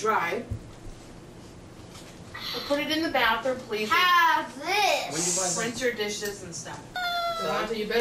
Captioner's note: laughs